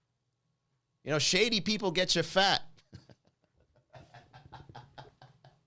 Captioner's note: laughs